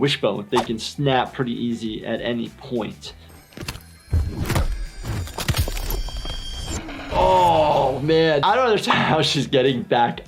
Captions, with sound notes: They can snap pretty easy at any point. (body slamming) (metal pieces rattling) Oh! Man! I don't understand how she's getting back up.